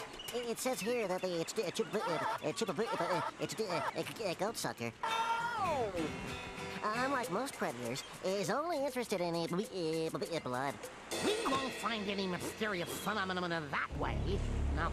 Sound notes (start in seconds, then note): 5.0 wailing